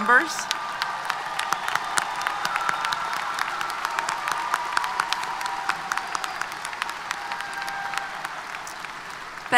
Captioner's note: applause & Cheers